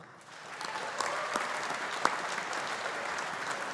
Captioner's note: audience applauding